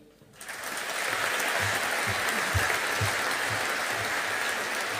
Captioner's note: audience applauding